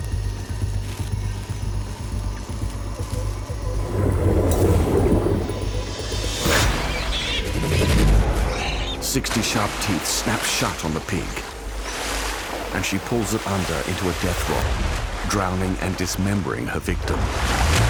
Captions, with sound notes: [pig squeals] Sixty sharp teeth snap shut on the pig, and she pulls it under into a death roll, drowning and dismembering her victim.